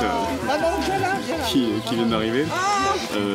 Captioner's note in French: brouhaha en fond avec les exclamations des personnes âgées